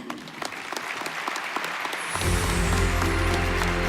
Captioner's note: applause